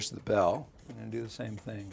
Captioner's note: air pumping